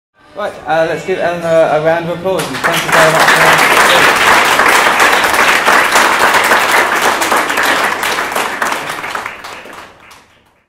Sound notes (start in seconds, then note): 2.4 applause